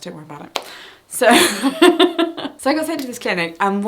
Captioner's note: laughs